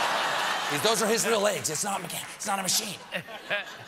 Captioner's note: laughter